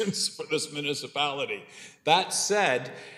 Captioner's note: laughs